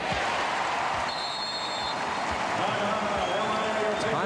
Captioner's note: whistle blows